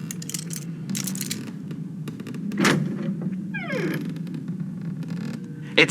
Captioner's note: picks lock and opens door fx